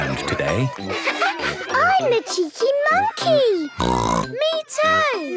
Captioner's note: bleating; snorts